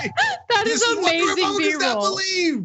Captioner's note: laugh